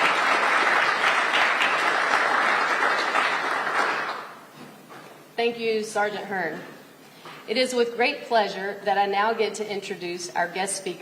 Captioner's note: applause